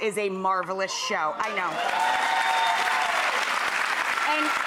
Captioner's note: audience applauding